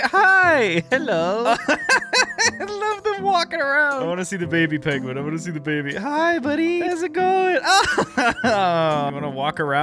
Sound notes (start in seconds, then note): 1.4 laughs; 7.7 laughs